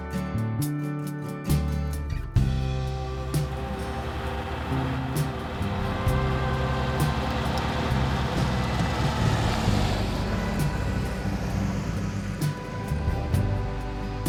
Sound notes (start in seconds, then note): 3.7 Beetle engine rumbling; 10.9 light music continues